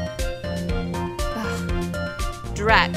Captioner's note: annoyed sigh